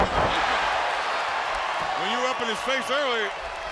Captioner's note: crowd cheering